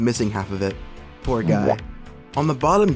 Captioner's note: boowomp